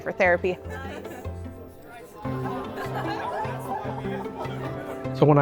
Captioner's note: people chattering and laughing